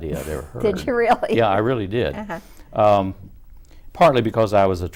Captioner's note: laughing